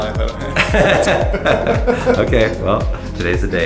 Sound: laughing

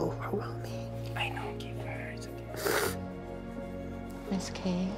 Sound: whispering

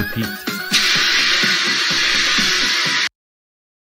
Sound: spraying

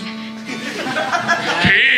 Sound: audience Laughing

